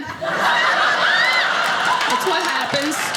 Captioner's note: audience laughing